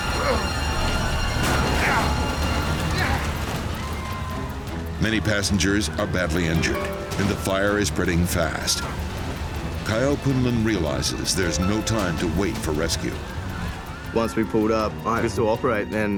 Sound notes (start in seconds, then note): 1.0 passengers screaming